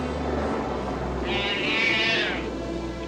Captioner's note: calf bawling